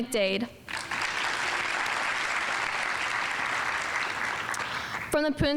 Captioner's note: audience applauding